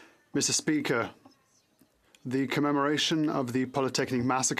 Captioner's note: speaking French